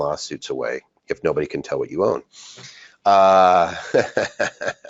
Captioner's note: laughs